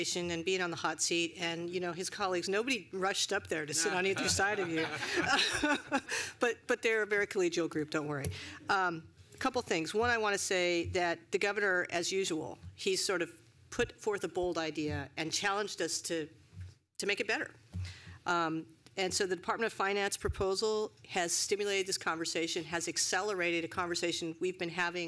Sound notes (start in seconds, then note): 4.0 laughter